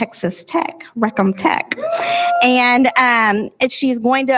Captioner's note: audience members whoop